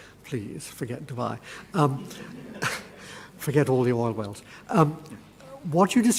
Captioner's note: laugh